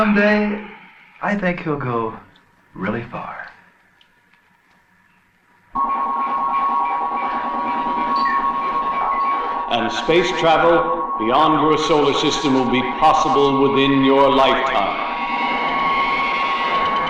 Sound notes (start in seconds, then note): 5.7 static buzzing